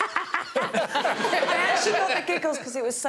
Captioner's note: Greg cackles; audience tittering; all laughing